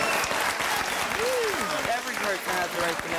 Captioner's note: audience applauding